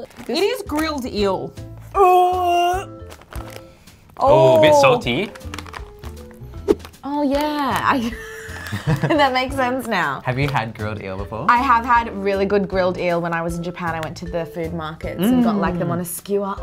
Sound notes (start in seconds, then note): 1.9 gags; 8.0 laughs